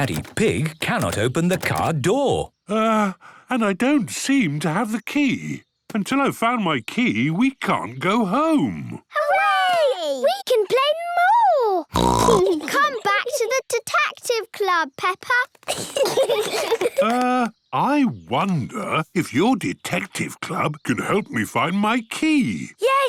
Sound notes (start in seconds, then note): 11.9 snorts; 15.7 giggling